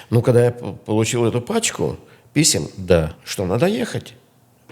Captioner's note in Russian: none